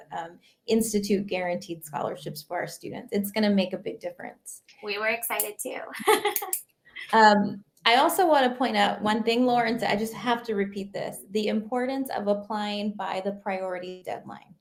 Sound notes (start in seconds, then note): 5.9 laughing